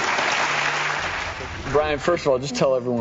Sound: audience applauds

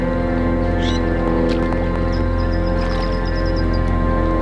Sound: bird chirping

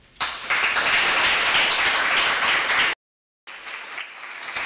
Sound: audience applauding

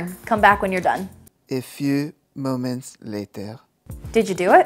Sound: in a French accent

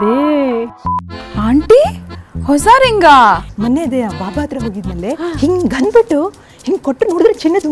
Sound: women chatter about accesories; women chatter about Godmen

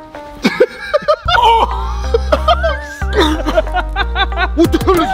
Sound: laughing

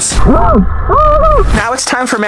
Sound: screams underwater

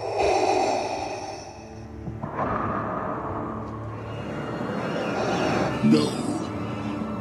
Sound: heavy breathing

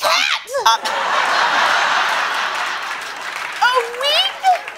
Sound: laughter

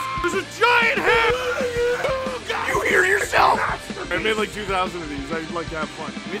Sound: Harry potter screaming; screaming

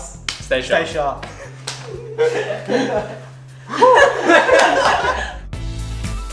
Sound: laughs; chill music

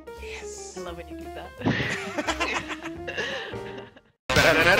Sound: laugh

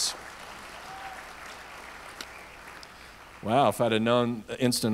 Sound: audience applauds

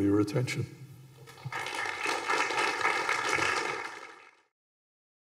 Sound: applause

